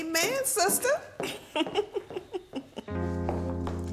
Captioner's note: chuckling; soft upbeat music